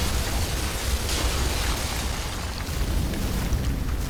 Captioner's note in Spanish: Explosión